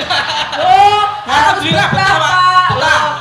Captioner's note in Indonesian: tertawa